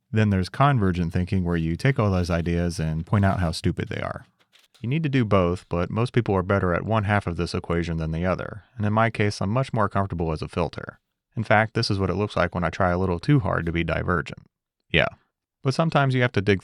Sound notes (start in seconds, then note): none